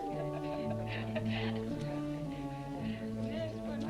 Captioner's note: woman laughing